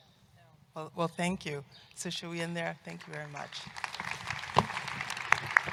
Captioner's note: applause